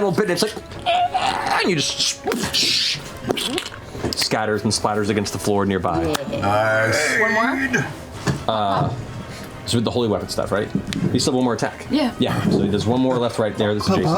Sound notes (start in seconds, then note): 1.1 squeaks; 1.1 squishing